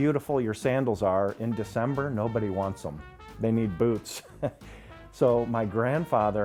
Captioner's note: chuckles